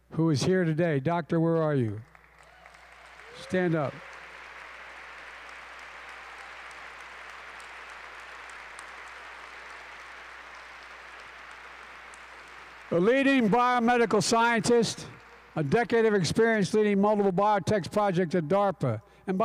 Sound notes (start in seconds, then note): 5.4 applause